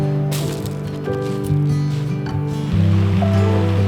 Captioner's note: stones rattles loudly; waves crashing loudly